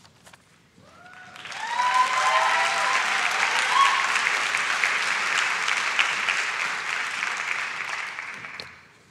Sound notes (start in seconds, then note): 0.9 audience shouts and claps